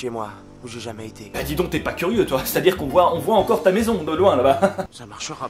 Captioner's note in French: Rire sarcastique